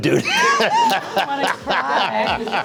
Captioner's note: laughter